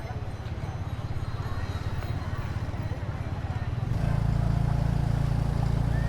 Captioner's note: street noise